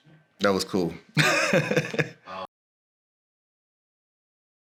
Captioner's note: laughs